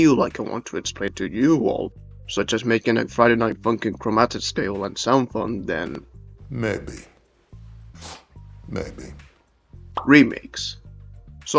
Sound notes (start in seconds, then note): 7.9 sniffs